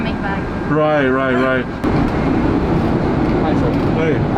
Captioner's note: laughing